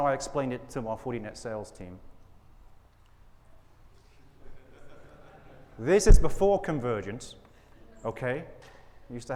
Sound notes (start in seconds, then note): 4.4 audience laughing